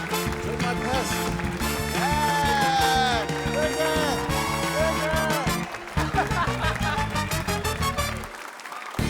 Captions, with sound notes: (APPLAUSE) - Drink my piss. (EXCLAIMS) Drink it! Drink it! - (CHUCKLES)